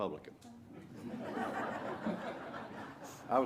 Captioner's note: laughter